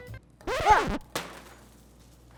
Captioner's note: record scratch